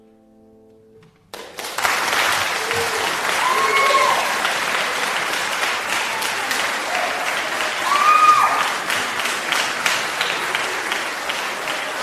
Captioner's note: applause